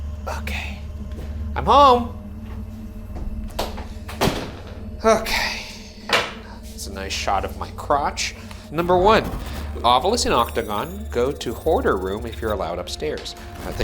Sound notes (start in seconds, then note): 2.5 eerie music; 4.1 door slamming; 5.7 eerie music